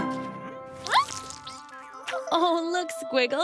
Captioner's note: grunting; slurp